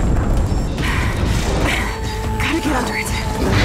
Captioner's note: groaning; heavy breathing